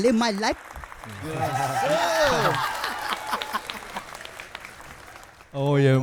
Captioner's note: cheers and applause